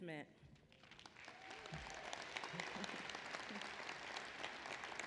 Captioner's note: applause